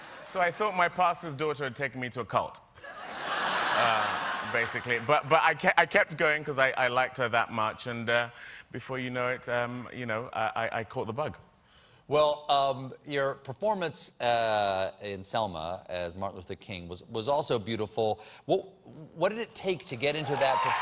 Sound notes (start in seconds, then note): 2.8 laughter